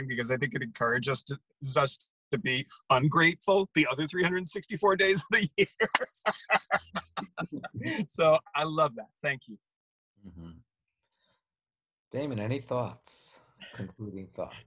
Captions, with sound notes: because I think it encourages us to be ungrateful the other 364 days of the year. (hand claps) (laughs) So I love that, thank you. Um-hum, Daman, any thoughts, concluding thoughts?